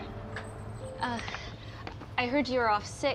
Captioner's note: birds chirping